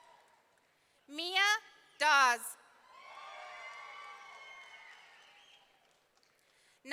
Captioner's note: audience cheering; audience cheering